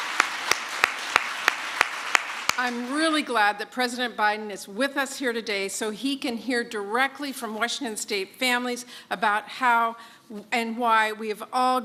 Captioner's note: applause